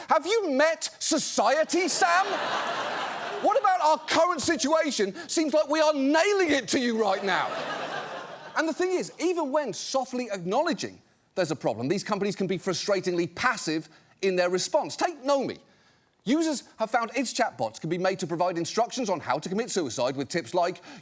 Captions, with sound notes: Have you met society, Sam? (AUDIENCE LAUGHS) What about our current situation seems like we are nailing it to you right now? (AUDIENCE LAUGHS) And the thing is, even when softly acknowledging there's a problem, these companies can be frustratingly passive in their response. Take Nomi. Users have found its chatbots can be made to provide instructions on how to commit suicide with tips like,